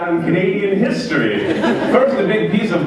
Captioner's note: laughter